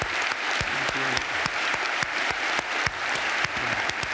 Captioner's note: applause